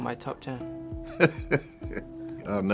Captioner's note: laughing